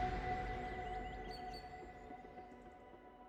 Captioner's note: birdsong